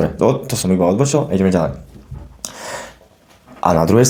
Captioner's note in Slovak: smrkanie